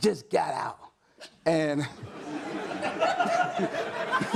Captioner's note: audience laughs